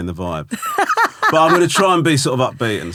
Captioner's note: laughing